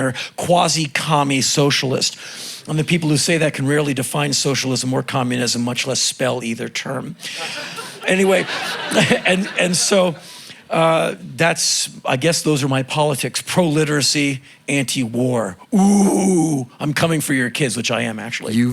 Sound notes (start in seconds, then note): 7.2 crowd laughing